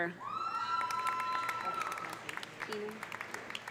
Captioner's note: audience cheering; audience applauding